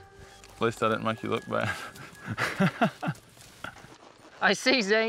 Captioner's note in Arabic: يضحك